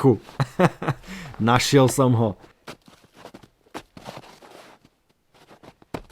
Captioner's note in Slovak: smiech